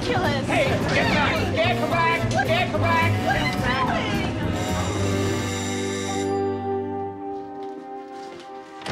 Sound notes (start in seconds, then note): 0.1 all shout; 5.6 doorbell